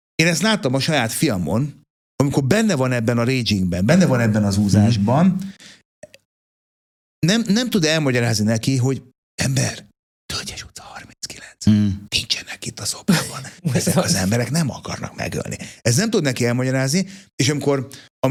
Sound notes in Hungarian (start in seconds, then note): 13.1 nevetés